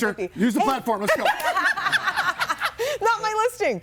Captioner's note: everybody laughing